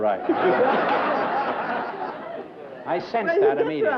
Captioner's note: laughter